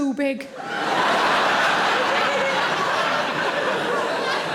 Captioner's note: audience laughs